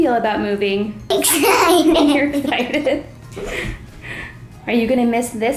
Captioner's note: laughing